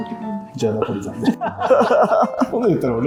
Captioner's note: laughing